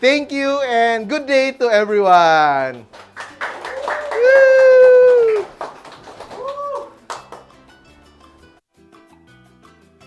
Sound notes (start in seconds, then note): 2.7 applause; 3.5 cheers; 5.5 applause; 6.3 cheers; 6.9 applause